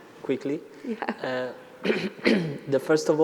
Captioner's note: chuckles